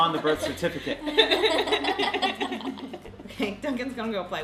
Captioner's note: laughing